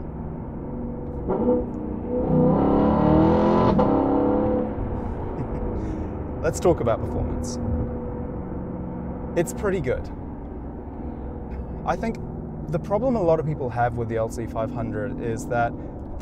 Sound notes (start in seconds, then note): 1.1 engine sounds